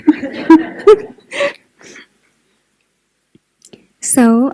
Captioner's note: laughter